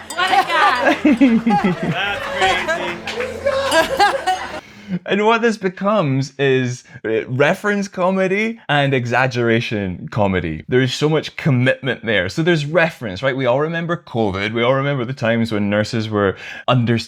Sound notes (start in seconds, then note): 4.6 laughter